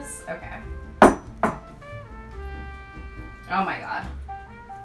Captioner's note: bowl clatters